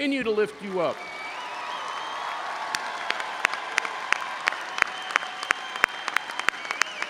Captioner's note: audience cheering and applauding